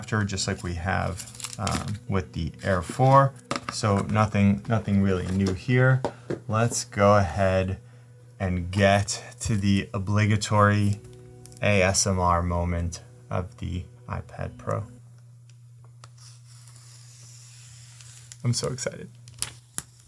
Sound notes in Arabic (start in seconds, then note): 16.0 بلاستيك يضغط بهدوء